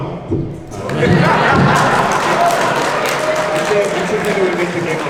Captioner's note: audience laughing and clapping